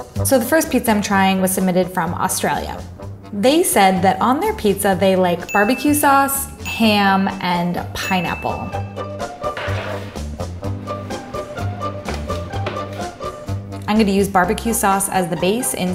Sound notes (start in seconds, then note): 5.4 bell dinging; 9.5 upbeat music continues